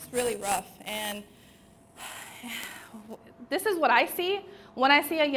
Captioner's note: sighs